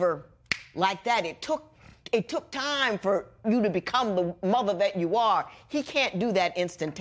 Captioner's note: snaps